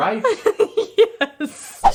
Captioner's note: laughing